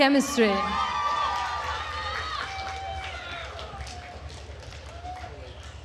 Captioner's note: attendees cheering and applauding